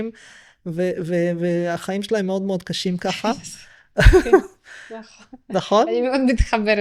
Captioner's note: laughter